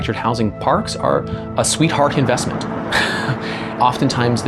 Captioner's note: laughs